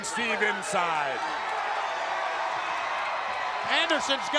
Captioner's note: crowd cheering